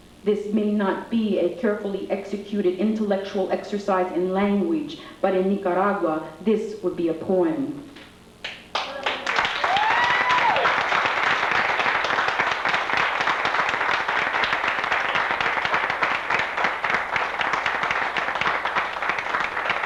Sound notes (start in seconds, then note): 8.4 applause; 8.8 cheering